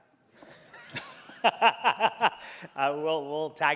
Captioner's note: presenter laughing